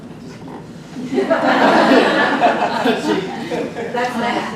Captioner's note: group laughs